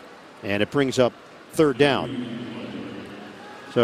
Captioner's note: whistle blowing